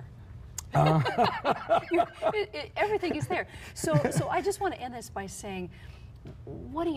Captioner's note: risate